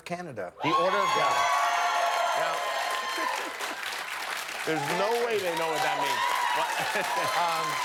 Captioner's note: cheers and applause